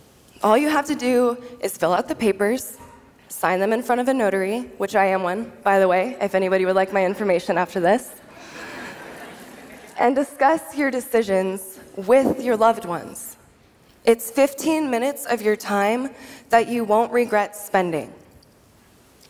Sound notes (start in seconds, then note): 8.6 laughter